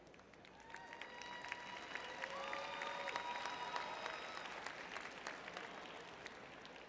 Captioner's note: audience cheering